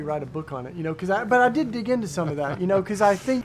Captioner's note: laughing